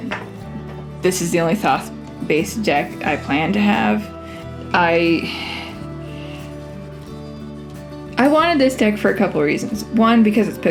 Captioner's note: sigh